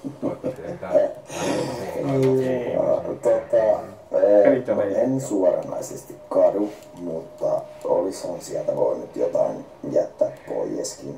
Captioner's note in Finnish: Nauraa